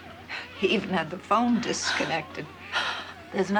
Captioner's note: patsy gasps